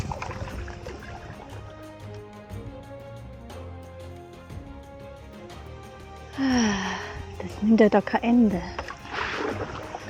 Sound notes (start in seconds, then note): 6.3 sigh